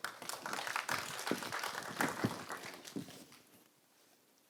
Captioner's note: audience applauding